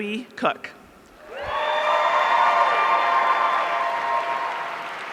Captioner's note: audience cheering